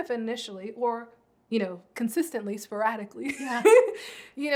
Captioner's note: laughs